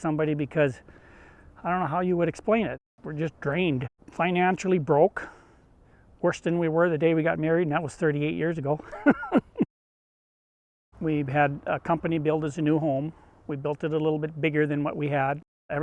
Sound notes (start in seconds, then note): 8.8 laughs